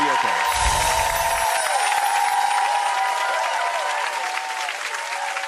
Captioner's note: audience cheering and applauding